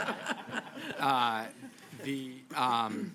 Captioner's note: laughter